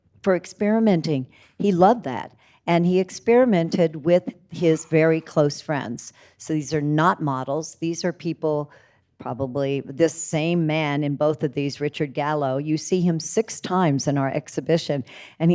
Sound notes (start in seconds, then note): none